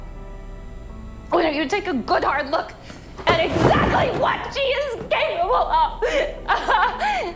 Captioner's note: shouting